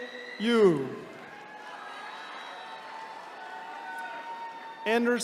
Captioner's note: attendees cheering